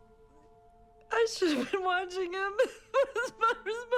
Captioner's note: crying